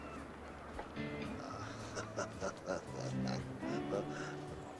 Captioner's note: Larry se ríe